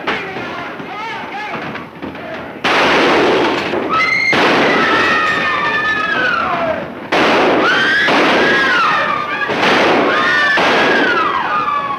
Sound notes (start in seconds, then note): 0.1 smacking; 2.6 fires gun; 3.9 screaming; 7.2 firing gun; 7.6 screaming